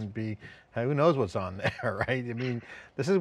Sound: laughs

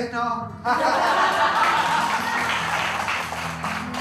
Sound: laughter and applause

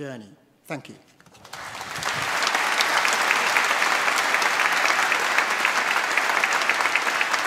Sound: applause

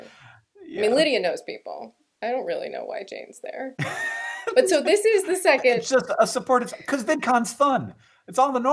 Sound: laughter

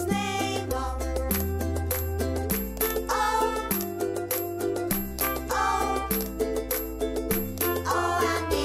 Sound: clap

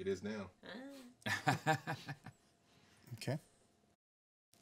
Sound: man laughing

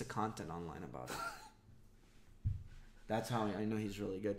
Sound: laughs

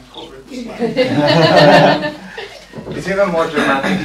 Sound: laughter

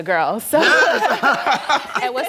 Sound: laugh

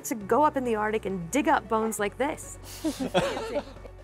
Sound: laughs

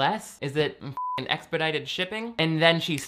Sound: beep

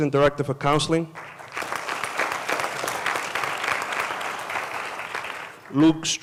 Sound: applause

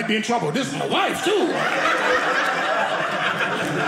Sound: audience laughing

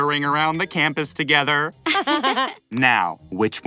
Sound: chuckling

